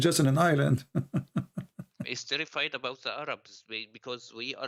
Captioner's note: Ketawa